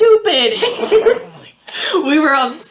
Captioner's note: laughing